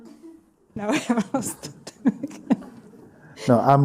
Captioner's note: laughs